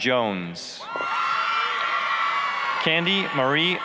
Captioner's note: applause, cheering